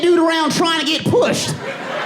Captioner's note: audience laughing